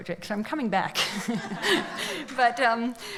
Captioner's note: laughs